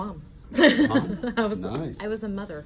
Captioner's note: laughing